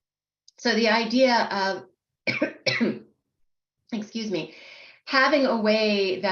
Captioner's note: coughs